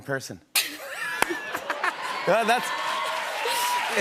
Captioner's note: speaking French; laughter and applause